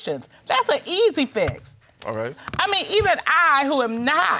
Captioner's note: none